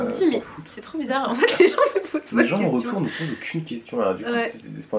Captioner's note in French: rires